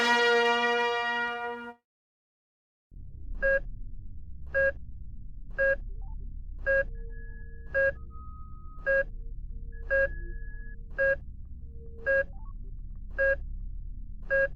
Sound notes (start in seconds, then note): 0.0 fanfare; 3.3 equipment beeps